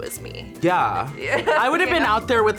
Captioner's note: laughs